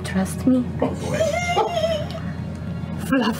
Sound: giggling

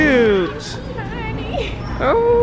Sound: laughs

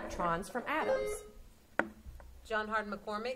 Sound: buzzer sounding

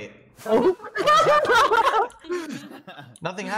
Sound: laughing

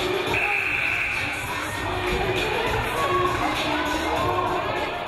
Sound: game buzzer buzzes

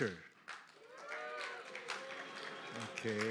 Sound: applause

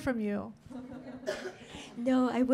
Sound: laughing

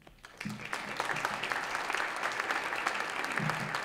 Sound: audience applauds

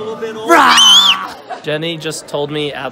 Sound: squeals

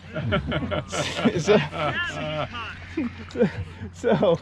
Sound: laughing

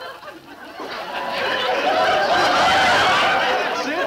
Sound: audience laughing

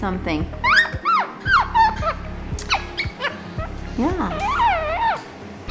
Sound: Brando and Nelly chirp

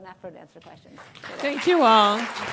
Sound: applause

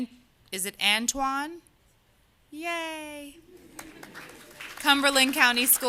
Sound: applause

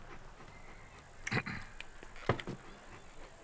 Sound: clears throat

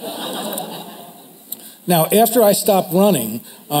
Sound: crowd laughter

